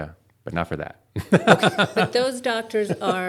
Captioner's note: laughter